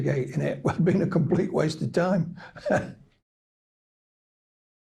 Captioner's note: chuckles